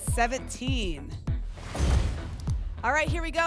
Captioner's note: whoosh; thump